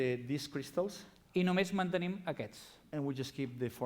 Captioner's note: non-english speech